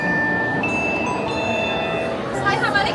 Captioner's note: people chatter; device chimes